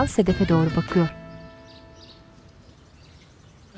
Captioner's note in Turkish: Kuş sesleri